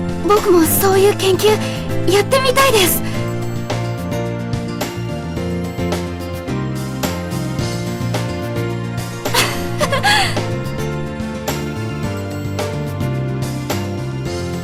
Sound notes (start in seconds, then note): 9.3 laughs